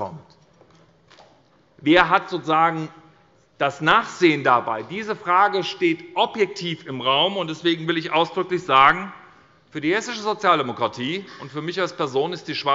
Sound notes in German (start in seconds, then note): none